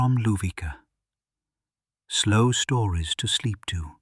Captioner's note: short pause